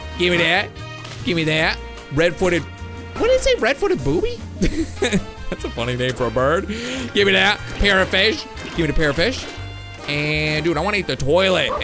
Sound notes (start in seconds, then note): 4.6 laughs